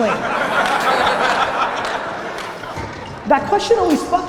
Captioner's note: audience laughter